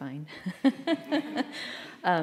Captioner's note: laughter